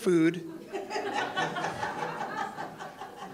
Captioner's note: audience laughs